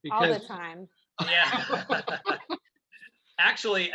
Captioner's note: laughing